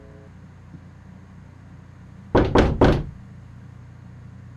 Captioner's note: knock on door; knocking continues